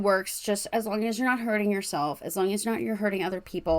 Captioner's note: none